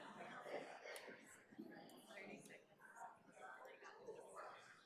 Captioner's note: crowd chattering